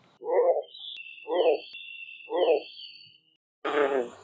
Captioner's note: bullfrogs calling